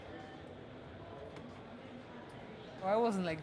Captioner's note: people chattering